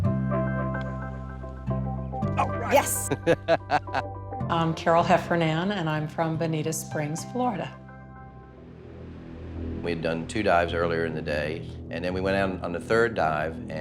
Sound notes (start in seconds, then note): 0.1 upbeat music; 2.3 laughing